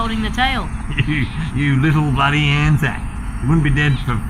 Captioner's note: laughs